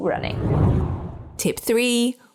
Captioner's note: air whooshing